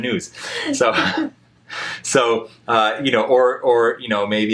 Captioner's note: both laugh